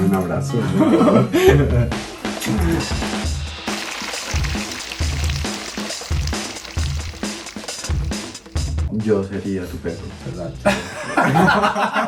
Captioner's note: laughs